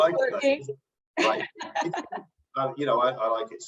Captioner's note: laughs